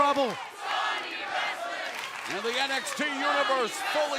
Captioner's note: crowd cheering